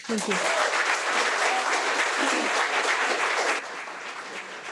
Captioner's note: audience applauding